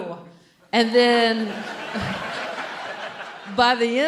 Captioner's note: audience laughing